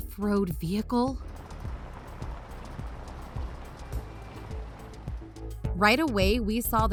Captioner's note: vehicle driving off road sounds